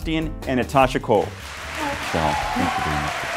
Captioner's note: audience cheers